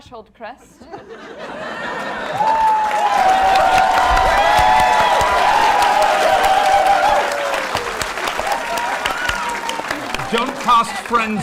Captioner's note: laughing and cheering